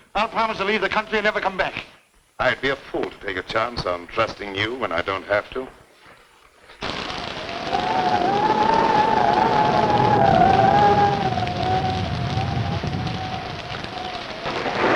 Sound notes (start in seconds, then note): 6.8 thunder rumbling; 6.8 wind howling